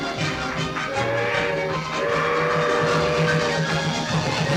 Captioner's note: adventurous music; train horn blowing